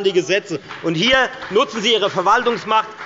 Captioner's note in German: Beifall bei der FDP